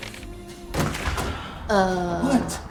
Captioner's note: door clacking